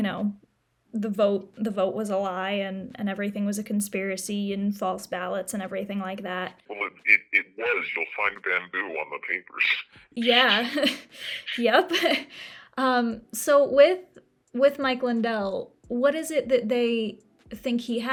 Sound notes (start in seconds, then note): 11.0 chuckles; 12.1 laughs